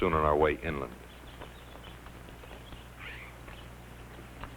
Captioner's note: birds chirping